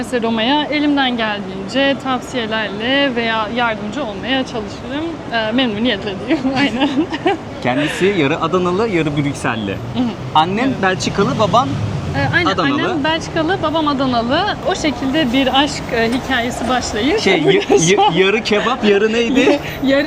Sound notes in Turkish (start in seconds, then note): 6.4 kahkaha